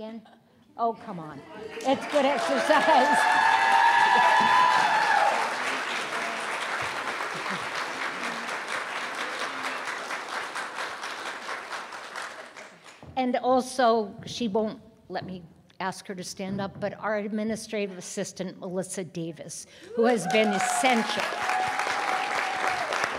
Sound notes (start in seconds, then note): 6.0 applause